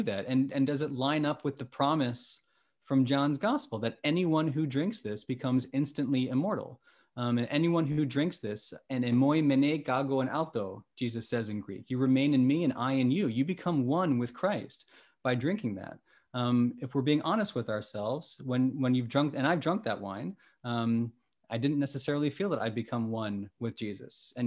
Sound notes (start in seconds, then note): 9.5 speaking greek